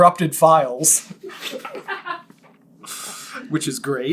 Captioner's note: laughs